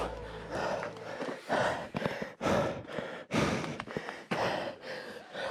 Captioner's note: breathes heavily